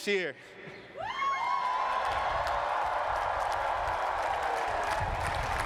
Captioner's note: cheering